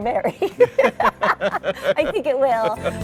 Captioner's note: both laugh